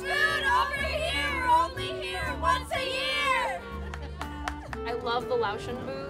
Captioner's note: laughing